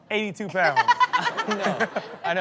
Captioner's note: laughs